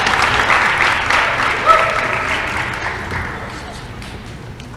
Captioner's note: applause